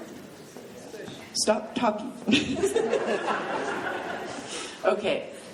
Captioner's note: laughing; laughs